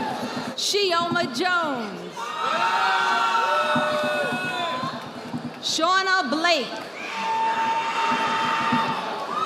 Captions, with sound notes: Sheoma Jones. (audience applauding) Shauna Blake.